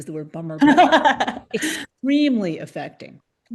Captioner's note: laughs